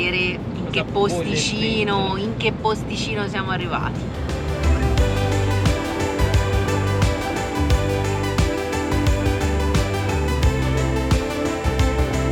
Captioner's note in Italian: Applauso